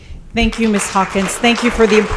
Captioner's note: applause